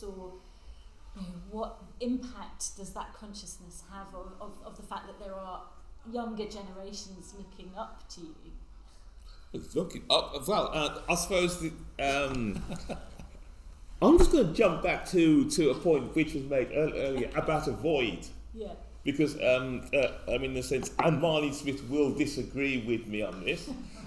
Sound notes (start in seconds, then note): 12.0 laughs